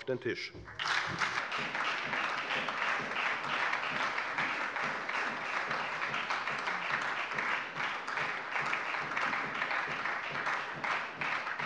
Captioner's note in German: Beifall bei der FDP und der SPD